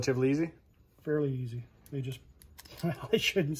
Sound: chuckles

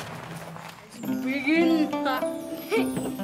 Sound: chattering

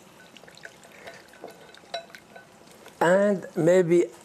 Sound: mixing against a glass bowl

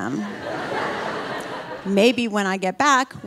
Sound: audience laughing

